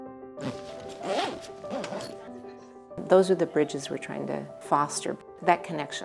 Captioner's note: NATSOT: zipper